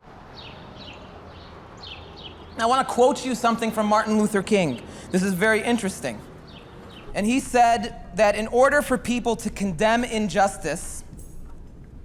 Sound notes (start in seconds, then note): 0.7 birds chirping